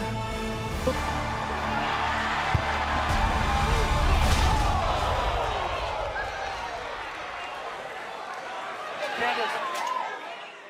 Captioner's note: crowd cheering